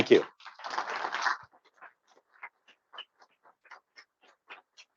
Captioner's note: applause